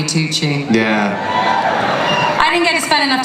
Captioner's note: cheers